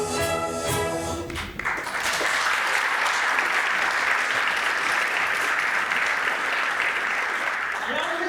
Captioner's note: applause